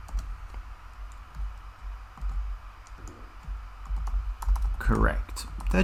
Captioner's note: typing